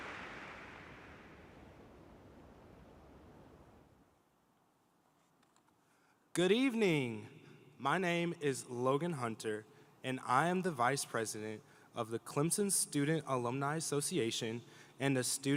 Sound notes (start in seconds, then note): 2.3 applause